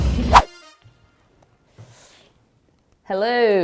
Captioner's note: whoosh